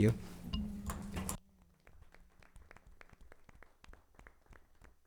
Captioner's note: audience applauding